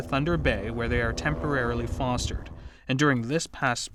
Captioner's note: helicopter noise